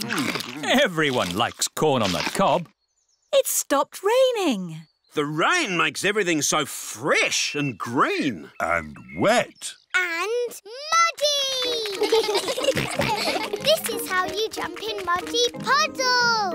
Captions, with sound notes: Everyone likes corn on the cob! It's stopped raining. -The rain makes everything so fresh and green. -And wet. -And muddy! -(CHILDREN GIGGLE) This is how you jump in muddy puddles!